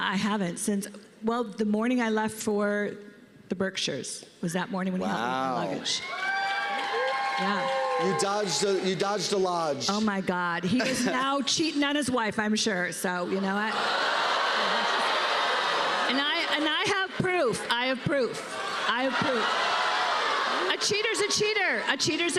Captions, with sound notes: Oh, God, uh, I haven't since-- well, the morning I left for the Berkshires was that morning when he helped me with the luggage. -Wow. -[cheers and applause] -Yeah. You dodged a-- You dodged a Lodge. Oh, my God. He is now cheating on his wife, I'm sure. -So you know what? -[audience gasps and groans] And I--And I have proof. I have proof. I have proof. -[audience gasping and groaning] -A cheater's a cheater.